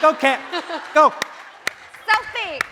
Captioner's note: clapping